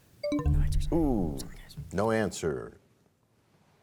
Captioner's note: bell chime, time expires